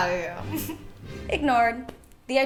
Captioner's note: snicker